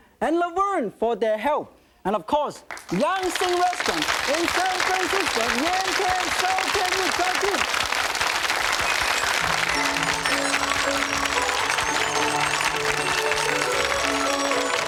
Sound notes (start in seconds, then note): 2.5 audience applauding; 9.1 joyful music